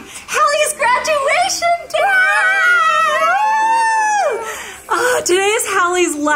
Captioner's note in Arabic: يشجعان